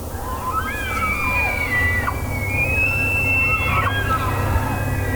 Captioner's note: multiple elk bugling